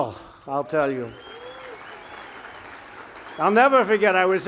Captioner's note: applause